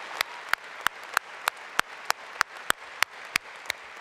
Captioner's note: applause